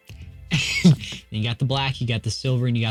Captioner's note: laughs